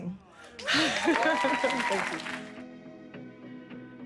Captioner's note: audience cheers; laughs; gentle music